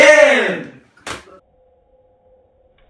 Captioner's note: click